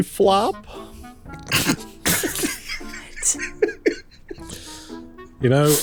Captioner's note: stifled laughter